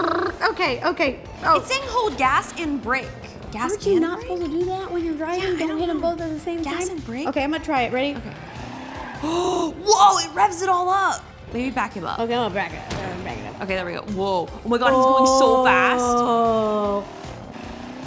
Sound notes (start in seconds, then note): 0.0 blows raspberry; 8.7 car engine revs; 9.2 gasps